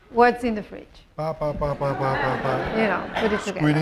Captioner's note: speaking spanish